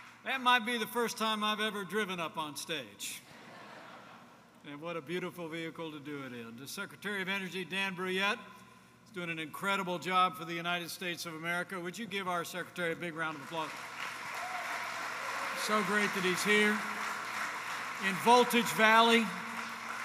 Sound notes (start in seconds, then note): 3.3 laughter; 19.8 applause